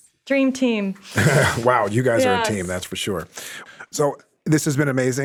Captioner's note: laughs